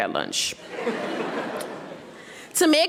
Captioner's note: audience laughing